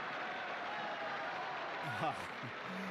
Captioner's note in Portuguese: aplausos